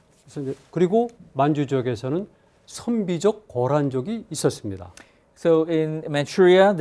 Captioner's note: speaking in Korean